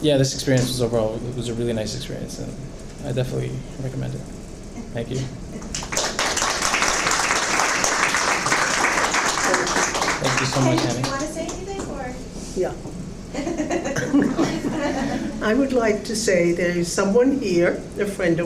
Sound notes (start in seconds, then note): 5.6 applause; 11.3 woman's Voice; 13.3 laughing